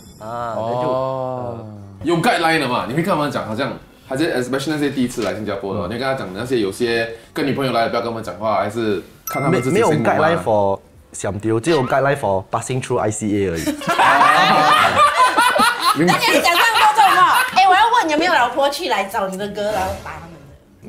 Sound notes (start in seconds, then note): 13.8 laughs